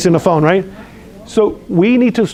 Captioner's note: background chatter